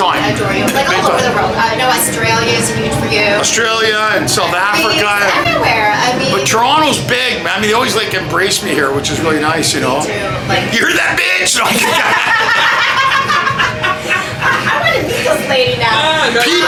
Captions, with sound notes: they adore you, like all over the world I know Australia is huge for you Australia and South Africa Greece, everywhere, I mean But Toronto is big man, they always like embrace me here which is really nice you know They do You hear that bitch! (Laughter) I want to meet this lady now